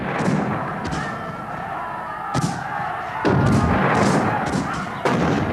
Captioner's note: booming; shouting